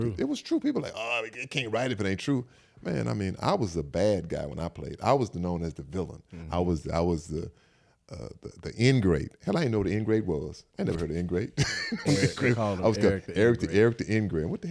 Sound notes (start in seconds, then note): 11.6 Eric laughs